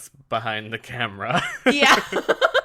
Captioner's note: laughs